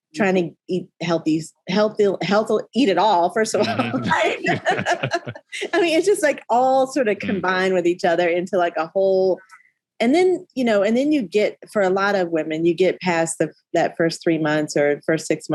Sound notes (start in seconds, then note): 3.5 all laughing